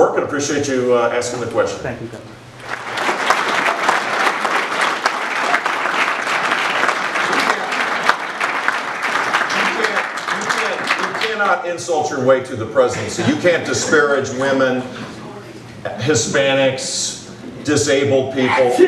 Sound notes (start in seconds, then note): 6.7 applause